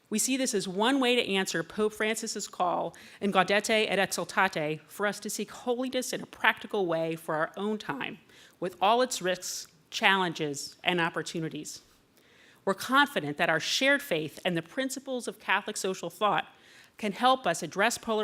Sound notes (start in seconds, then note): 3.4 foreign words